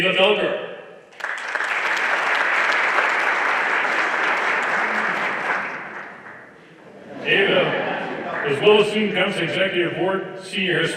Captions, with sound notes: Ava Felker. (everyone applauding) Ava, as well as student council executive board,